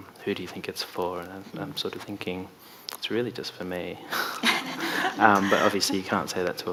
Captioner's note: laughs